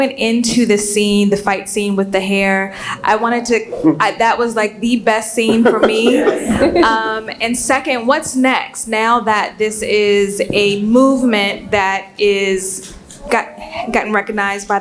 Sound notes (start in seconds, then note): 7.9 laugh